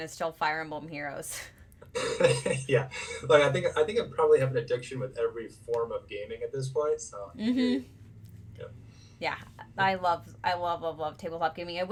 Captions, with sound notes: is still Fire Emblem Heroes. (laughing) Yeah, I think I've probably had an addiction with every form of gaming at this point so. Yeah, I love, I love, love, love tabletop gaming.